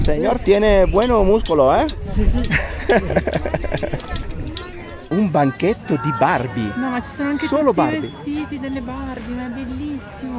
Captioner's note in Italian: risate